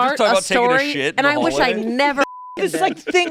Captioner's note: beep